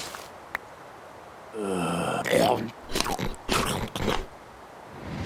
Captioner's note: stuffed-mouth chewing noises